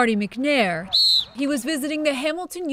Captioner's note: whistle blowing